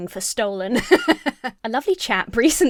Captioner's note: laughs